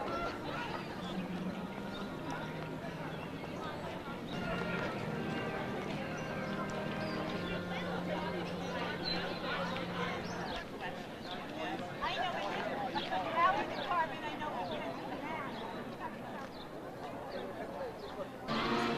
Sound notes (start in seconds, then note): 0.1 overlapping chatter; 0.2 birds chirp; 4.5 slow baroque music; 5.4 overlapping chatter; 11.2 birds chirp; 11.2 overlapping chatter